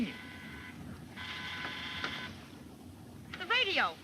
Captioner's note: radio buzzing